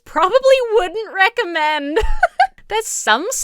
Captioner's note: laughs